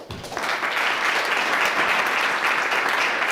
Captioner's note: clapping